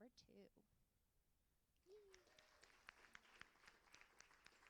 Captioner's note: applauding